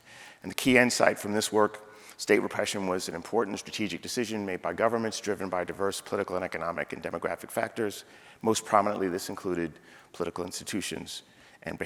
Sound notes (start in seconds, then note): none